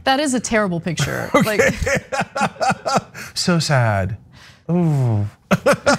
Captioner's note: laugh